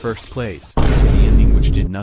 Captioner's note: vineboom again